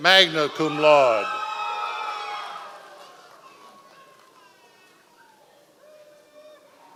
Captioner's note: members of the audience cheering